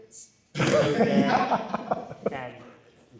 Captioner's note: laughs